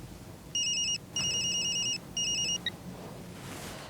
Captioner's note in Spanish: Suena el celular